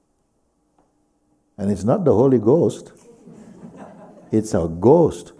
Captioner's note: laughter